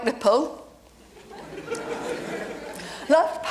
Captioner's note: audience laughs